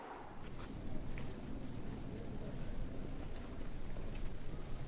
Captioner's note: footsteps thudding